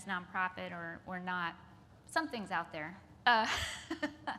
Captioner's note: laughs